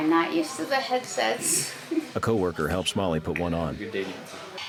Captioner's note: chuckles